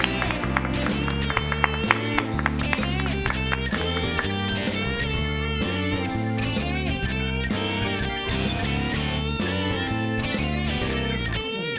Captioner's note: cheers and applause